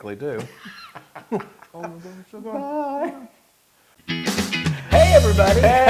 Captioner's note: laugh